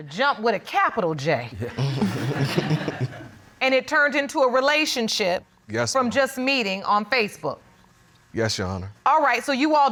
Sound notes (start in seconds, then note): 1.6 people laughing